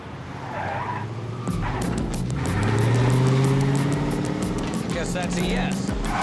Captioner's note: tires screeching